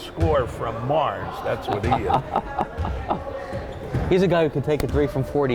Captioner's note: laughing